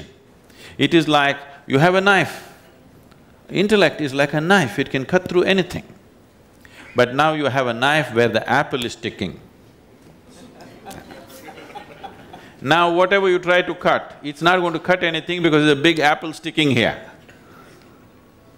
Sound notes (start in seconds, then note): 10.6 laughter